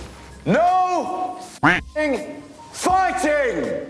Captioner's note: duck quacks